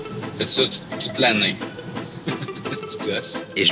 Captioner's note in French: rire